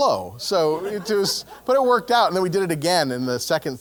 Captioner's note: laugh